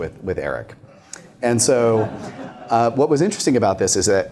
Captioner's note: laughter